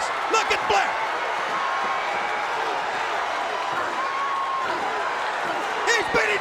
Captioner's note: crowd cheering